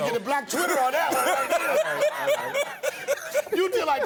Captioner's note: laughter